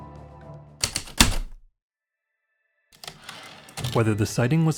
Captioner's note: heavy typewriter keystrokes then return slide